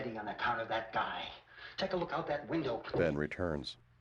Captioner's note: thud